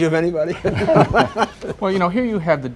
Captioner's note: laughter